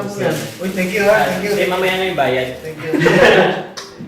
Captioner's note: laugh